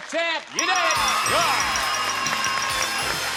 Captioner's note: applause